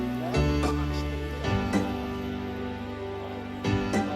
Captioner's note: # uplifting music #; background chatter